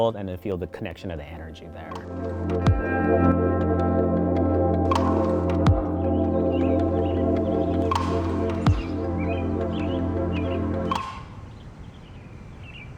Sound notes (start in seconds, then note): 5.0 soft music; 8.8 birds chirping